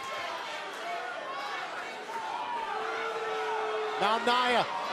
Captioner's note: crowd chatter